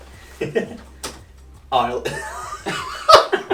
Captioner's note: laughs